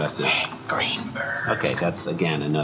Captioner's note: whispered